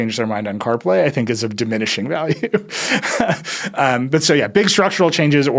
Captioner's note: laughs